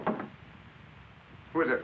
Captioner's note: knocking on door